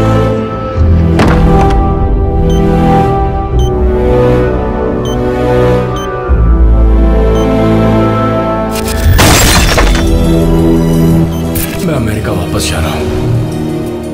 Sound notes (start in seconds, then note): 0.7 door closed; 2.9 beeping; 8.9 bang